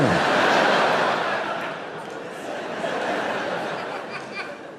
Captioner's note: audience laughing